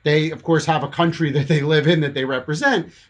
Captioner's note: chuckles